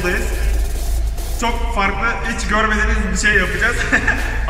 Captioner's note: laughing